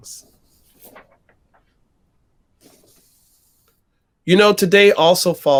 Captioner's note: paper rustling